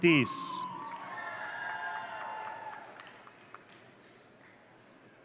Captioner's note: audience cheering